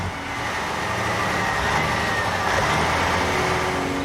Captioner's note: engine Running